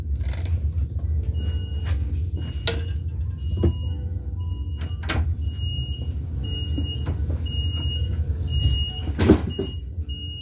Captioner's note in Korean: 출입문 닫힘